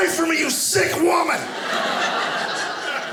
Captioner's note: audience laughing